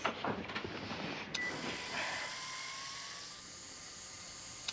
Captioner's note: buzzing